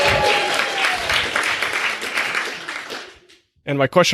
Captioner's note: crowd cheering